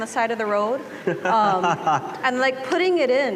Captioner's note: laughter